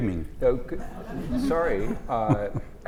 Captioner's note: laugh